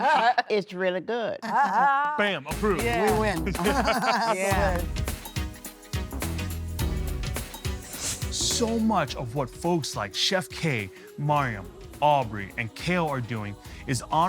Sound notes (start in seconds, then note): 3.4 everyone laughing; 4.8 upbeat music